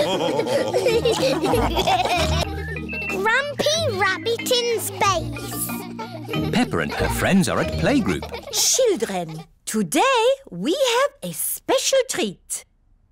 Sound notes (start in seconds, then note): 0.0 all laughing; 2.8 children giggling